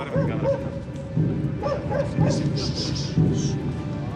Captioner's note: dog barking